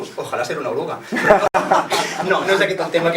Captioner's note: laughs